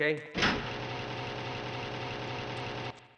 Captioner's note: car engine roaring